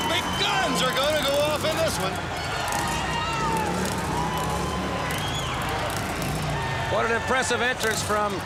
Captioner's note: crowd cheering